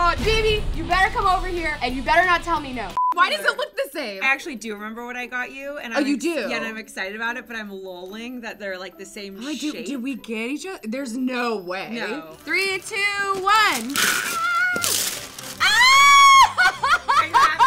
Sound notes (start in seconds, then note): 3.0 short beep; 12.3 tearing paper; 16.3 laughing